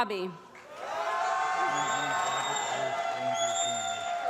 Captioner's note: applause